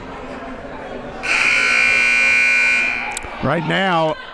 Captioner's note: buzzer blares